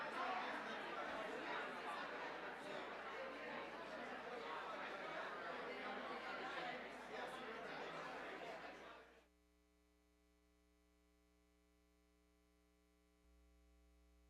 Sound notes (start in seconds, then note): none